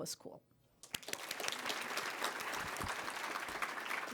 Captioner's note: applause